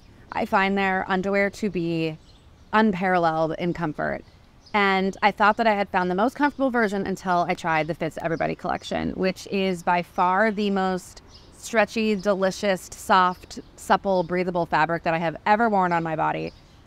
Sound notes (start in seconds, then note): none